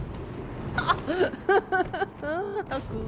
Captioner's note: insane laughter